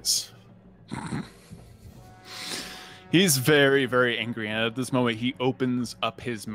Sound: laughs

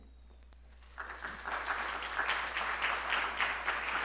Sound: applause

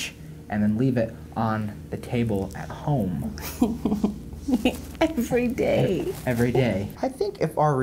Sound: giggling

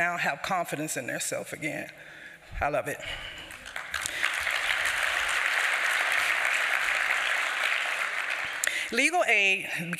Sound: applause

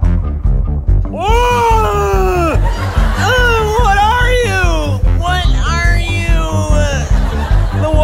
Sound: disgustedly

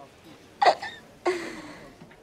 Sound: chokes out a giggle

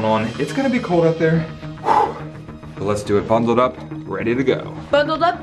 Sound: exhales sharply

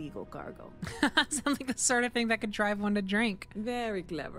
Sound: laugh

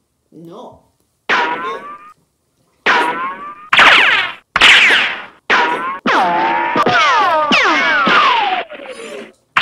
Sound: more ricochets; much closer ricochets!

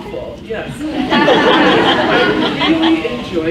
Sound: laughs

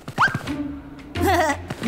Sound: chuckles

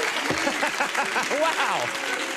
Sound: laughter

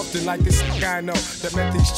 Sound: record scratching

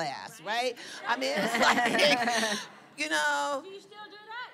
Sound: laughter

